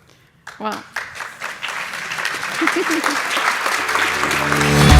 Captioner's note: clapping; upbeat music